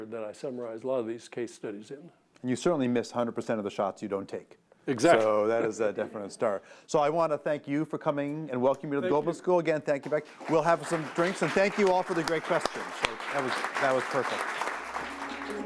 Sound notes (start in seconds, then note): 10.0 applause; 14.8 light music